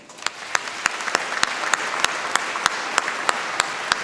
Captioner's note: applause